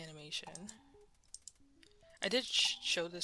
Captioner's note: mouse Clicking